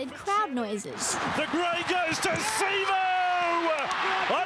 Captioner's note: crowd cheering